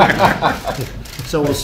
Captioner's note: laughter